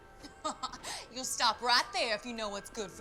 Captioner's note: laughs